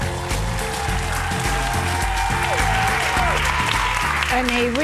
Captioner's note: audience cheering